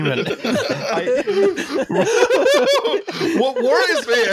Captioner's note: laughter